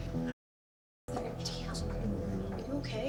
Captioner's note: dramatic music; people chattering